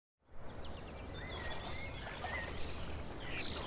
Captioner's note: birds tweeting